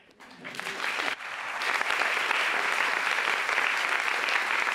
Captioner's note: audience applauds